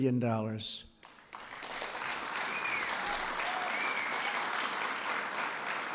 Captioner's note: applause